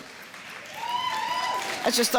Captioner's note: audience applause